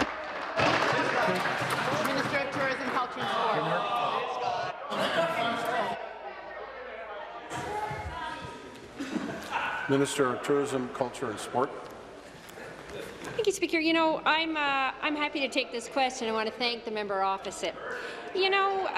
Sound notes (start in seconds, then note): 2.9 applause